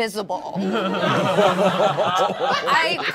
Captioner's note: all laughing